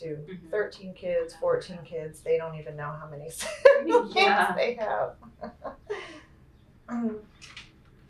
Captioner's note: laughs